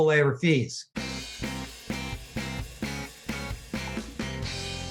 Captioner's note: logo thrums